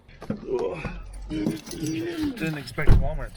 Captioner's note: grunts